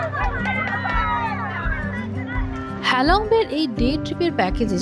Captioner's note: cheers